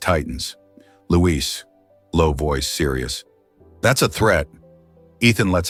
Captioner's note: low voice, serious